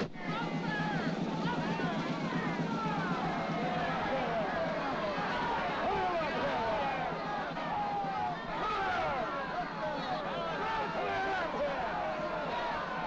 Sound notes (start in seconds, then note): 2.1 drum roll; 2.9 mob clamoring